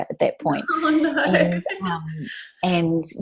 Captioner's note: laughs